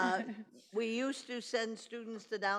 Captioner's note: laughs